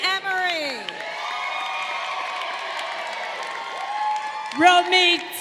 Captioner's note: crowd cheering